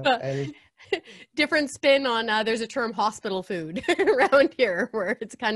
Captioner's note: laughs